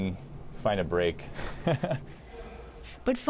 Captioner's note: chuckles